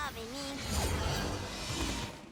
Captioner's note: whoosh